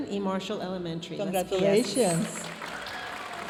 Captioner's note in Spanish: hablando en inglés; aplausos de la audiencia